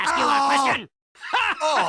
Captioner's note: laugh